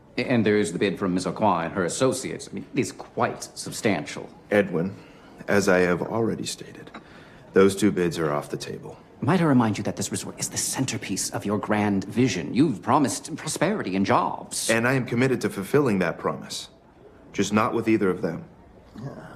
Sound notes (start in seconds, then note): none